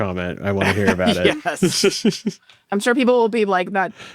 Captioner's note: laughs